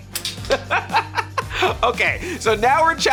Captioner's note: laughs